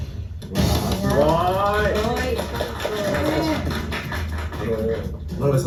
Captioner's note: applause